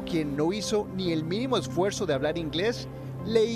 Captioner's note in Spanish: HABLA EN INGLéS